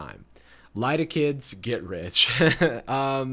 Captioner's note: chuckles